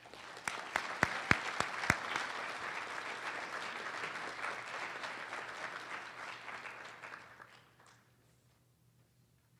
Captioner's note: applause